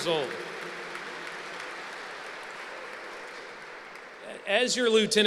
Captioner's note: applause